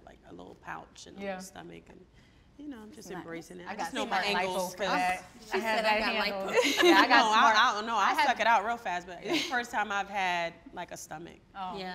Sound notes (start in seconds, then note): 6.3 laughs